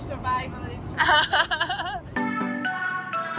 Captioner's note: laughs